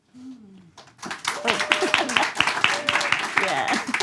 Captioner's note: audience claps